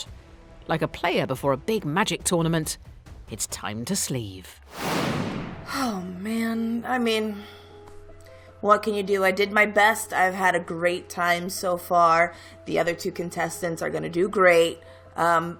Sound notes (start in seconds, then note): 4.7 dramatic whoosh